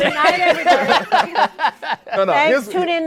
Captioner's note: laughter